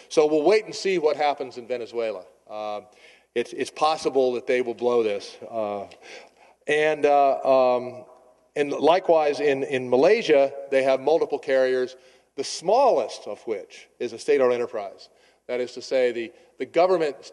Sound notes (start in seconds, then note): none